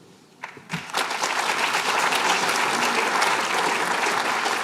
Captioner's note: applause